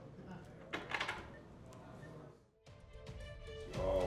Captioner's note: people chattering; suspenseful music